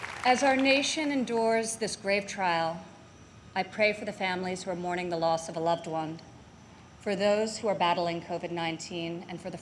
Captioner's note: applause